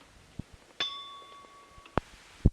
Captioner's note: bell Sound